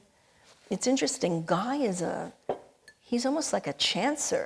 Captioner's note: cup chinking